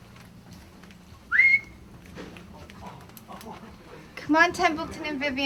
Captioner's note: gentle whistling